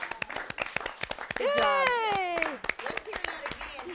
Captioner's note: �applause�